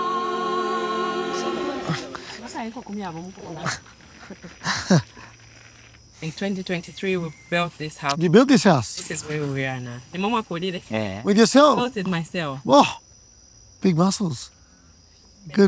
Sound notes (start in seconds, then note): 0.0 bright music continues; 2.7 person speaking in foreign language; 3.6 Dylan laughing